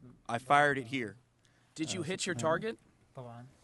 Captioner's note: through translator